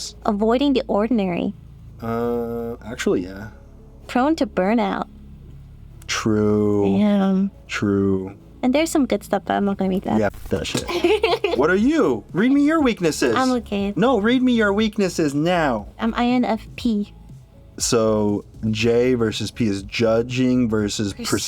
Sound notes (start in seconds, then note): 10.8 giggles